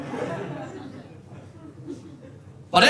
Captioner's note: audience laughing